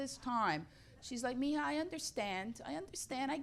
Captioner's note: speaks Spanish